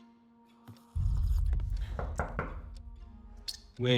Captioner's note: knocks